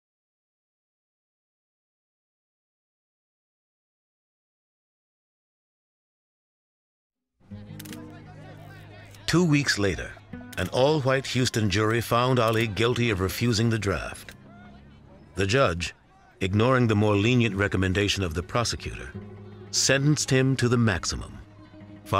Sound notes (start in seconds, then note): 7.4 reporters chattering